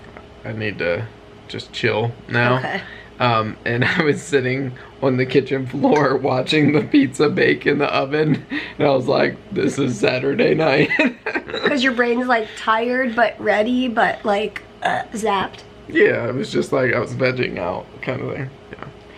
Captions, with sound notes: I need to just chill now. Okay. And I was sitting on the kitchen floor watching the pizza bake in the oven. And I was like, this is Saturday night. [chuckling] Because your brain is like tired but ready but like, ugh, zapped. Yeah, it was just like I was vegging out, kind of there.